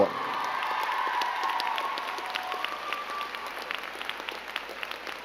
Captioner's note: crowd cheering and clapping